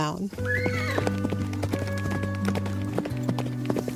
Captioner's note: horse whinnying